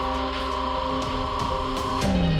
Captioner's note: radar beeping